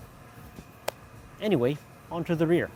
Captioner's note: clap